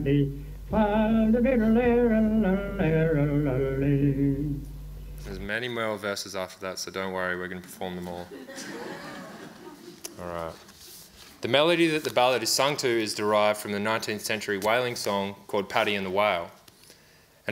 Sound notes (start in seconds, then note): 8.1 audience laughs